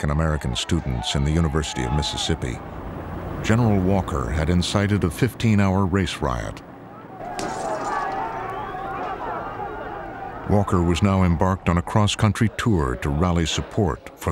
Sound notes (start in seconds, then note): 7.4 glass shatters